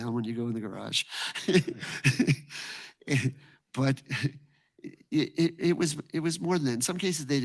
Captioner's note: chuckles